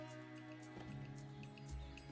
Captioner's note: car door opens